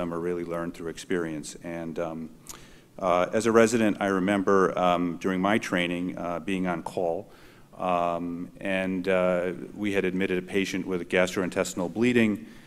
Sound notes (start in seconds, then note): none